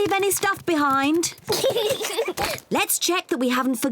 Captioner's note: both laugh